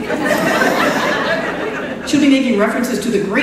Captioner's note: laughter